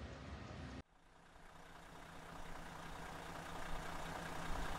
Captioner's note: engine on